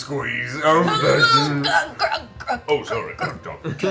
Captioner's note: choking noises